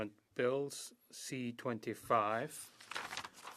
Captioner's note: speaking French